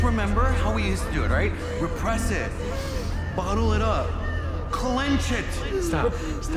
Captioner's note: inhales deeply